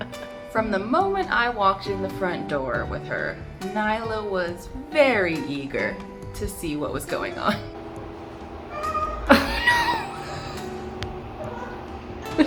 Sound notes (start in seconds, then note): 8.6 Nyla's meow